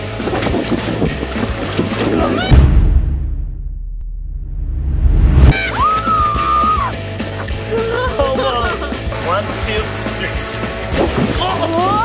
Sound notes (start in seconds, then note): 2.5 wind; 2.9 screams; 7.5 laughs